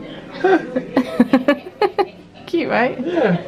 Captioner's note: laughs